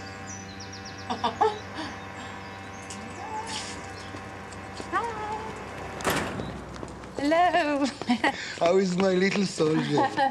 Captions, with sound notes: (ERIN CHUCKLES) Hi. - (DOOR SLAMS) - Hello. How is my little soldier?